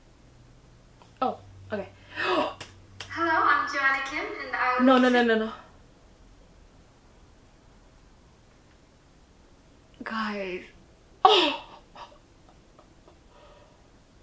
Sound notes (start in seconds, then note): 2.0 another dramatic gasp; 11.2 laughs